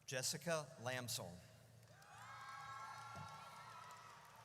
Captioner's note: audience cheers